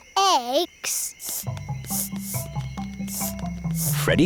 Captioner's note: sniffing